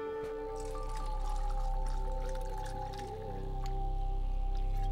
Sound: dramatic music; drink pouring

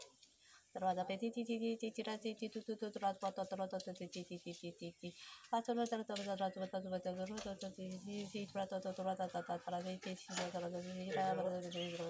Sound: light language

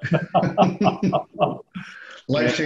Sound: laughing

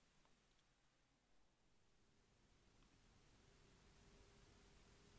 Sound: in Mandarin

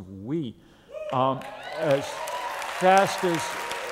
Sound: applause

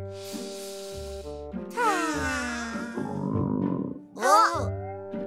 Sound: sniffing soup and hungry stomach sounds

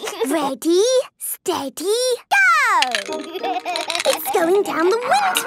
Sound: snorting and giggling; laughing

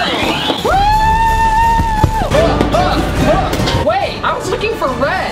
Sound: screaming

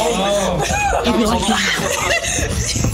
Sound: screams

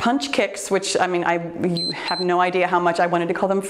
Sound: timer beeps

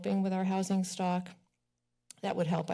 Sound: pause

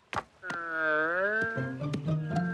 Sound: moaning

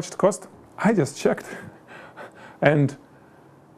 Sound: laughs

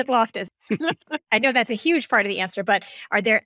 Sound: laughing

